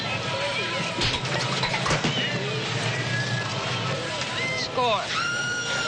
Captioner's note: bang